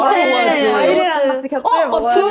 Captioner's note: counting numbers